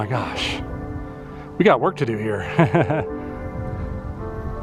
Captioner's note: laughter